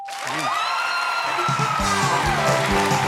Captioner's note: cheers and applause